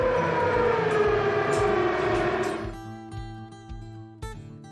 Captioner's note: motor whirring